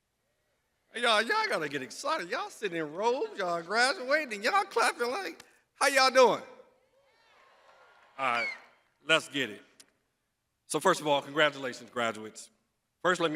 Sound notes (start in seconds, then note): 2.9 crowd cheers